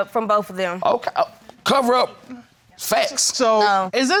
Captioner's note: stammering